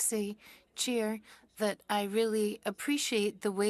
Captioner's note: speaking French